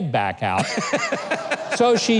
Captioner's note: audience laughing; man laughing hard